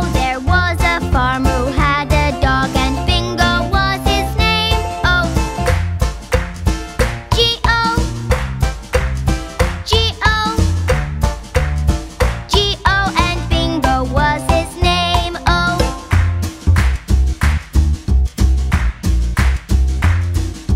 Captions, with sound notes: There was a farmer who had a dog and Bingo was his name-o. [clap][clap][clap] -G-O [clap][clap][clap] -G-O [clap][clap][clap] -G-O And Bingo was his name-o. [clap]